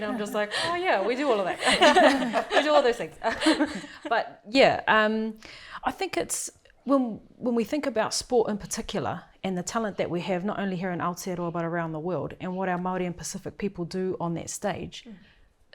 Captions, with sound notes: and I'm just like, 'Oh, yeah, we do all of that.' (LAUGHS) 'We do all those things.' (CHUCKLES) Um... But— Yeah, um... I think it's— When we think about sport in particular and the talent that we have, not only here in Aotearoa but around the world, and what our Māori and Pacific people do on that stage...